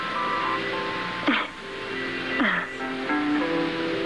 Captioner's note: chuckles